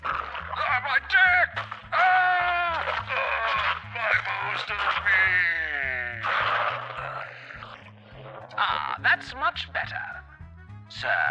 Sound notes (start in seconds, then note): 0.8 sounds of crashing and bloody mayhem